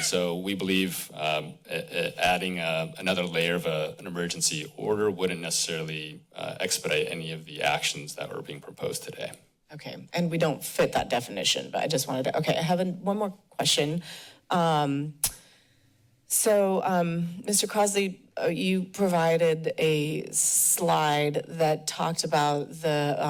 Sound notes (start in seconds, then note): none